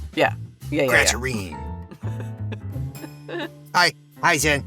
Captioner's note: chuckles